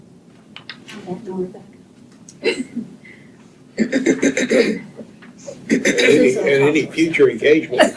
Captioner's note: clears throat